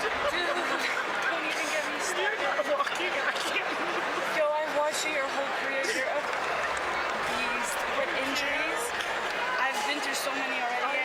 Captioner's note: applause